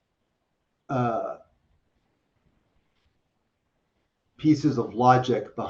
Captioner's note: pause